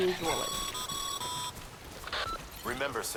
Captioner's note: radio call